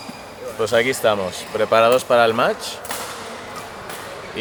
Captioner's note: in spanish